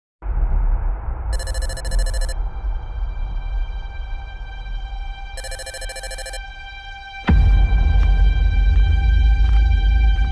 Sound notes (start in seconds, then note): 0.0 scary sound; 1.3 beeping sounds; 2.5 unsettling music; 5.4 beeping sounds; 6.4 unsettling music